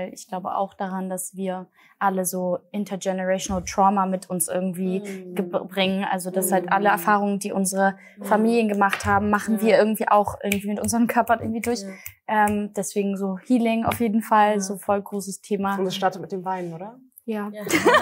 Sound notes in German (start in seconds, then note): 12.6 Schnipsen